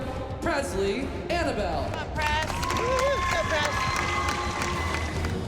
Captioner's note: cheering and applause